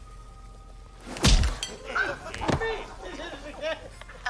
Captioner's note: laughter